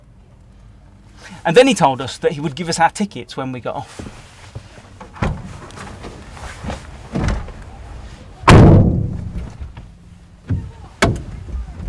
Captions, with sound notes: And then he told us that he would give us our tickets when we got off. (door slams)